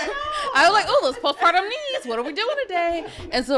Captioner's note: podcasters laughing